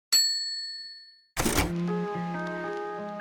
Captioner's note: bell dings